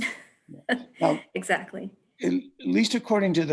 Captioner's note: laughs